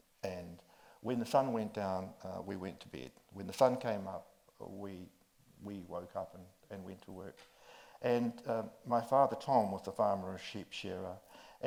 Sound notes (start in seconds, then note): none